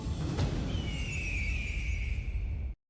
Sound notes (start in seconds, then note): 0.8 eagle calling